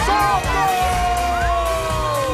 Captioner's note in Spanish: Gritos